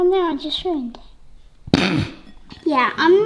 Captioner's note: giggling